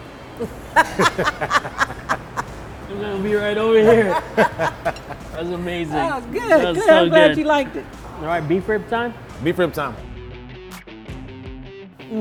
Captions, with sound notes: (laughter) I'm gonna be right over here. That's amazing. - Good, good, I'm glad you liked it. - Beef rib time? - Beef rib time. (upbeat music)